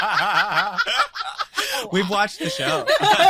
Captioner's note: both laughing